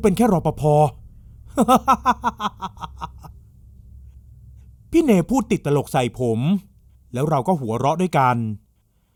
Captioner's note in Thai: เสียงหัวเราะ